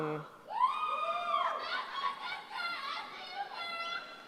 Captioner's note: cheering